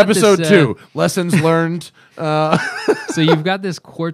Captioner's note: laughter